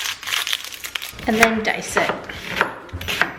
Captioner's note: chopping